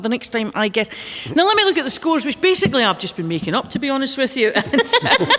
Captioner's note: laughter